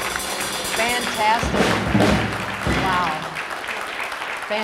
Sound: audience applause

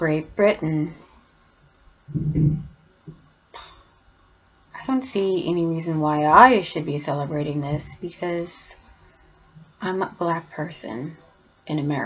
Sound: sigh

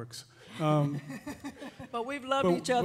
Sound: laughing

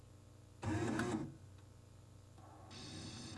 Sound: laser shuffles

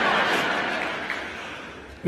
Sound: laughter

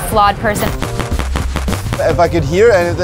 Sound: gunshots

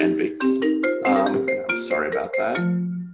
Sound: phone ringing

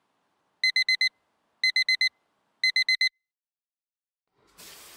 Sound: alarm clock

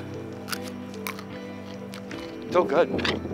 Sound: chews radish

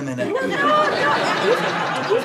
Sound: audience laughter

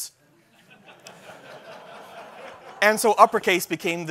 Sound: laughter

